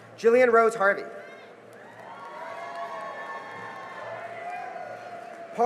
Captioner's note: cheering and applause